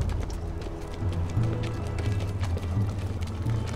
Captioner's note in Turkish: Ayak sesleri